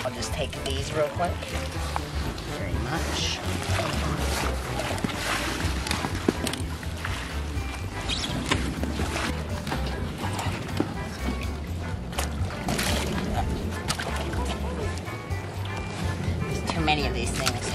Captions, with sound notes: I'll just take these real quick. Thank you very much. (toys squeak) (water sloshing) There's too many of these things.